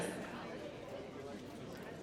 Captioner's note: audience chattering